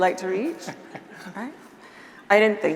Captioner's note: chuckles